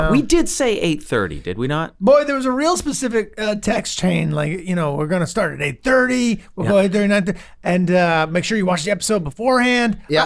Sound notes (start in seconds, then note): 7.0 murmurs